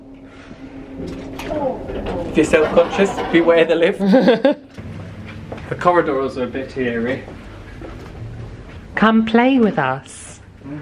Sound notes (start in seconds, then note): 4.1 laughing